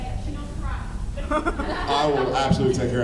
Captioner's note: laughs